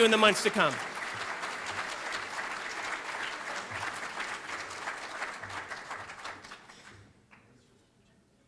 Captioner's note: audience applauding